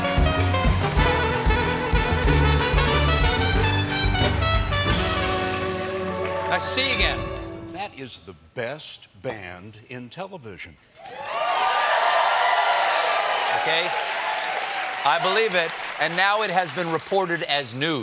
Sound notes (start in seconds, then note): 0.0 applause; 11.0 cheers and applause